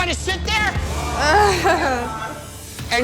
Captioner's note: shuddering groan